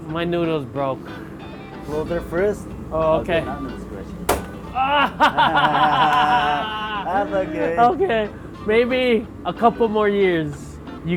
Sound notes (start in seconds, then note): 4.5 all laughing